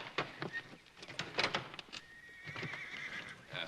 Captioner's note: horse neighing